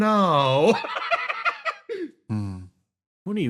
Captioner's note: laugh